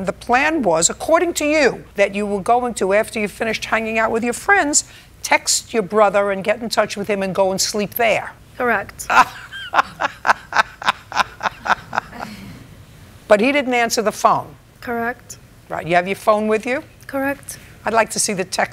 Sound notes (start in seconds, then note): 9.1 laughs